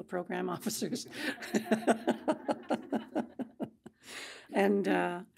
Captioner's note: group laughing